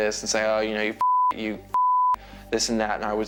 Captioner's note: beep